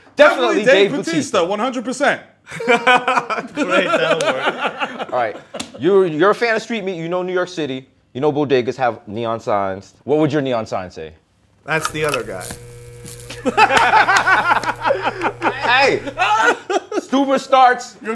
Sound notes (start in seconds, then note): 13.3 laughter